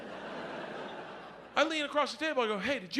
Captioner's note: audience laughs